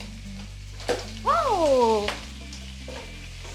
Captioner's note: oil is spitting